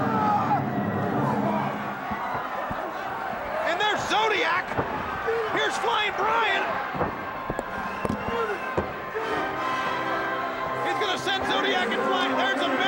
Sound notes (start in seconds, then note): 0.0 wrestler roaring; 2.0 crowd roaring; 7.2 wrestlers grunting; 8.4 upbeat fanfare music